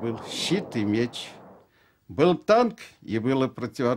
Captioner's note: speaking Russian